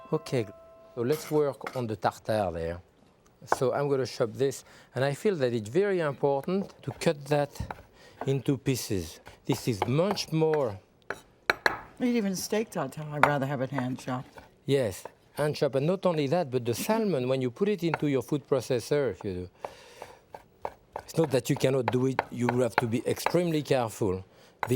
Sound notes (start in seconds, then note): 11.1 knife tapping